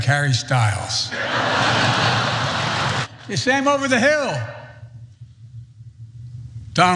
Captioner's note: laugh